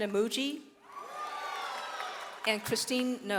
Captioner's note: audience cheers